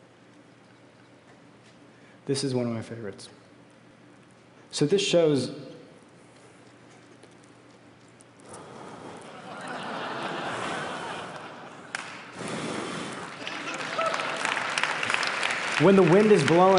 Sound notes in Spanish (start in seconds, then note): 9.2 Risas; 13.2 Aplausos